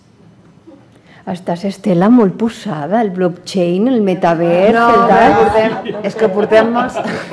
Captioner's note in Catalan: riures